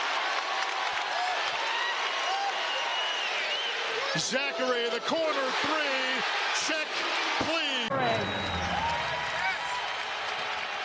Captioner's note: cheering